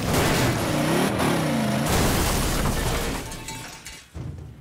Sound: crashing

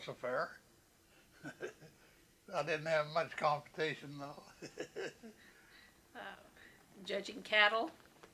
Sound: laughs

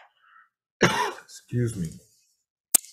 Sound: clears throat

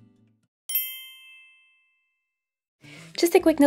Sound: bell chiming

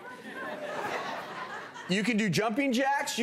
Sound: audience laughing

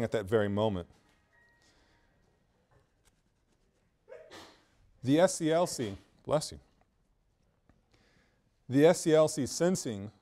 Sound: student sneezes

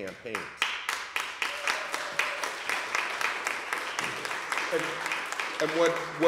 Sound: applause

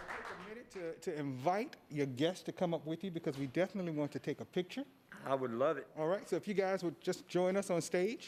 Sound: applause

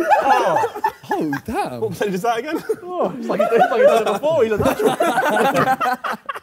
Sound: Sidemen laugh

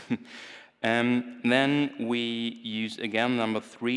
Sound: chuckles

